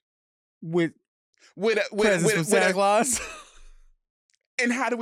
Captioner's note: laughing